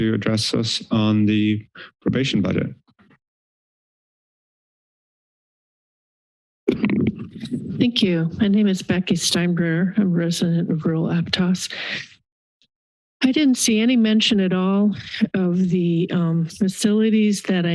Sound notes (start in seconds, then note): 2.5 silence; 6.6 mic noises